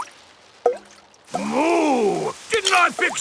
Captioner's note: water dripping